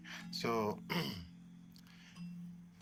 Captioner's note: clears throat